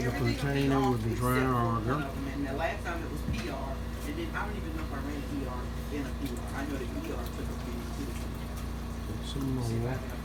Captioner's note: background chatter